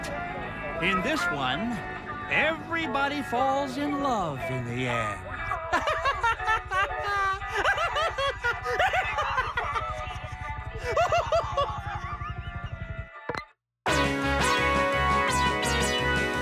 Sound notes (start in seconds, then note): 5.4 laughs maniacally; 13.9 news theme music